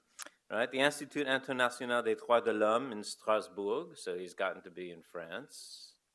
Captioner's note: foreign language